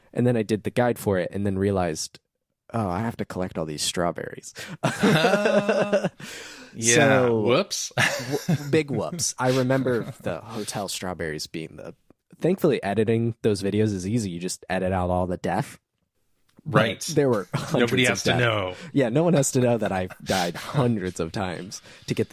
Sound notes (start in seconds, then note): 4.7 laughing